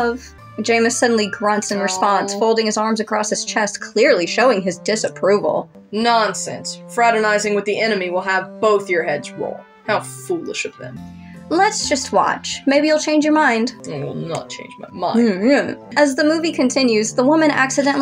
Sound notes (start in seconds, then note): 13.8 grumble